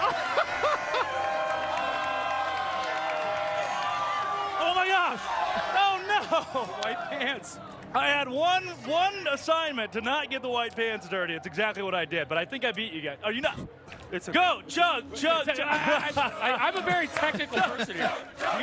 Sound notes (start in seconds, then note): 5.2 cheers and applause